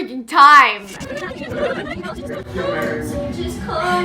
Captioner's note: audio rewinds